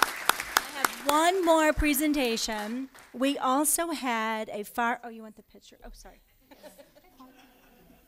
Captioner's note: applause